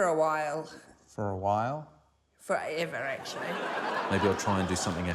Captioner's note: laughter